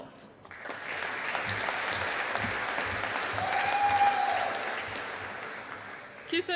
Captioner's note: audience applauding